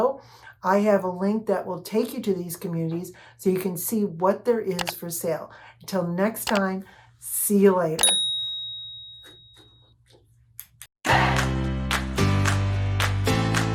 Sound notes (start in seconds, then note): 8.0 ding; 11.9 upbeat music